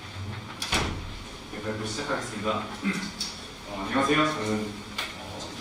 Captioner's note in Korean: 목을 가다듬음